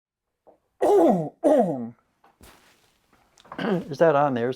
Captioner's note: coughing